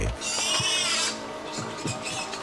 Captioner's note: pig squealing